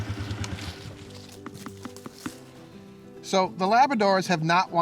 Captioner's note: ball thumping